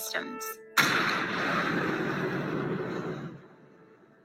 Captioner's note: Patriot blasting